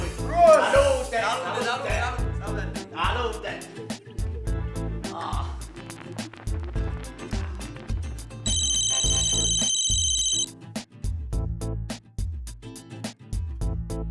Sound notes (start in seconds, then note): 4.0 rhythmic music; 8.4 cell phone rings